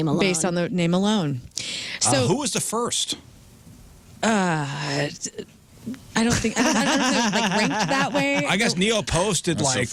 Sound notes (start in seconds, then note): 6.2 laughing